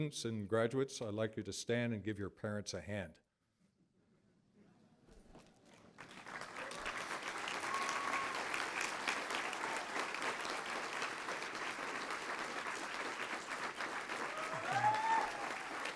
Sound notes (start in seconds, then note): 3.5 applause